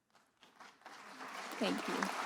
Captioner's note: graduates and guests applauding and cheering